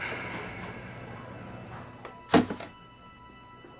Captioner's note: sighs